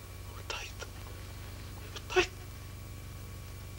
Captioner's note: whispers